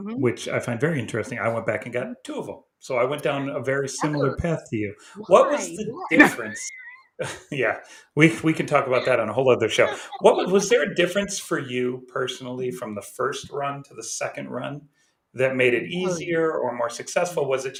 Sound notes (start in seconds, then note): 6.9 chuckles